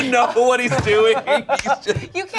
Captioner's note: laughing